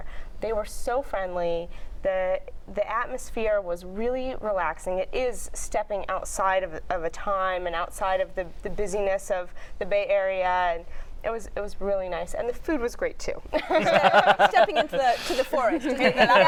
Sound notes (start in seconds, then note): 13.5 laughter